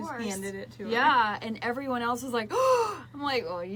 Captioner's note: gasps